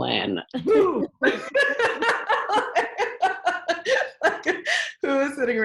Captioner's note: laughing